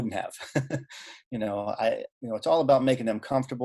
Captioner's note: laughing